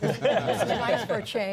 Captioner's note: laughter